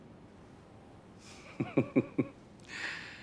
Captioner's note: chuckles